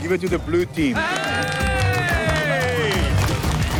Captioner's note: cheering